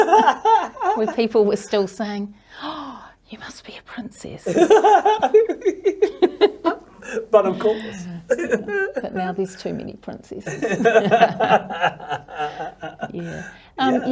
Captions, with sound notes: Where people were still saying, "Oh, you must be a princess." (both laugh) - But, of course. (laughs) - But now there's too many princesses. Yeah. Yeah. - Yeah.